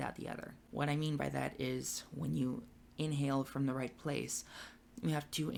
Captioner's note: takes breath